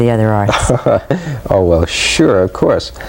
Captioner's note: laughs